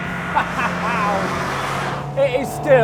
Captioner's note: laughs